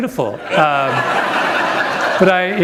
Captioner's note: laughter